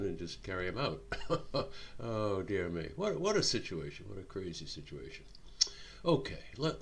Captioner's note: chuckling